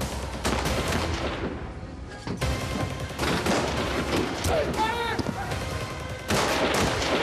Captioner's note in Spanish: continúan los disparos